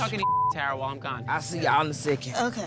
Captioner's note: beep